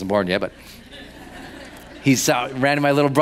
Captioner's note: laughing